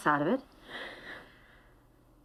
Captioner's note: sighs